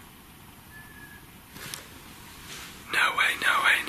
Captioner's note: whistling